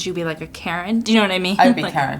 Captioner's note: laughs